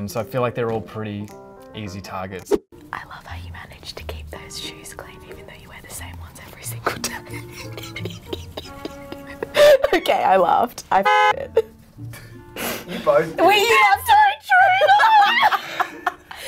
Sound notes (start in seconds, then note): 7.0 laughing; 10.9 car horn; 14.6 laughing